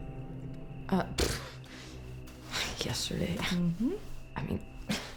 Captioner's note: scoffs